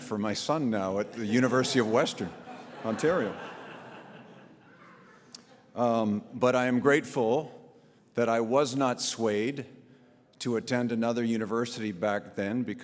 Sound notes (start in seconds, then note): 1.0 audience laughs